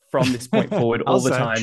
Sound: laughs

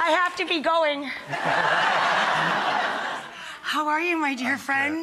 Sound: audience laughter

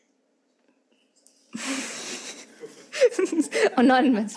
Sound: host chuckles

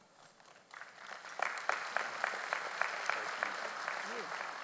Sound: audience applauds

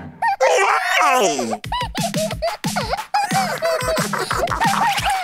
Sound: chuckling

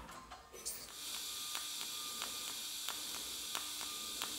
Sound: quiet whirring, occasional quiet clicking

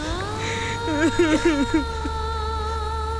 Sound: sobbing

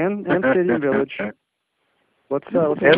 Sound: laughing

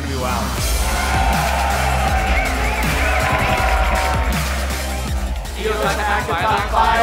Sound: applause and cheering

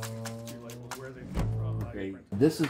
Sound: chattering

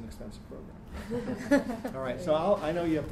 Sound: laughing

